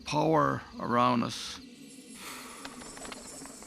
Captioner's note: wings fluttering